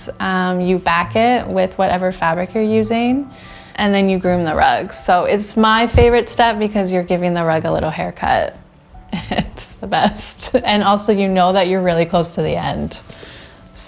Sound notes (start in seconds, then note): 8.9 laughs